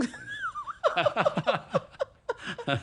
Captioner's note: laughter